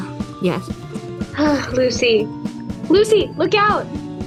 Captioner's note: sighs